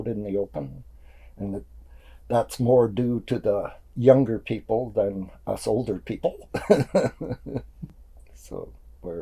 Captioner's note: laughs